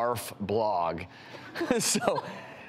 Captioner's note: laughs